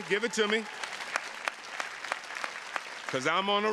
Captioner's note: attendees clapping